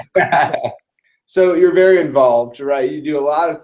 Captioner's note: laugh